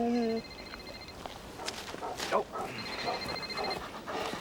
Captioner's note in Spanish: teléfono celular sonando